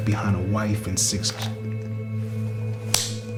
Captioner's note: takes a deep breath